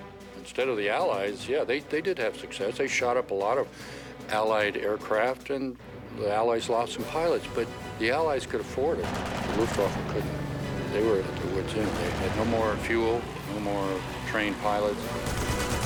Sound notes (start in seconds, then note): 9.0 gunfire